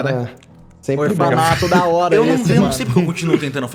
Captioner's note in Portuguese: risada